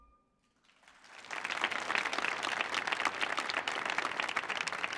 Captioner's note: audience clapping